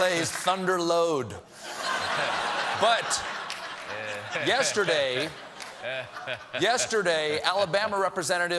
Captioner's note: laughter